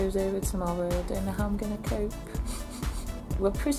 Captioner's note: sniff sniff